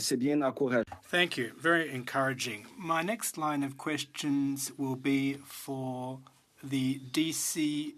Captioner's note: speaking French